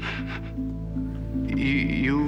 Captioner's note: chuckling nervously